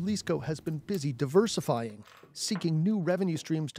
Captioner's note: speaking alternate language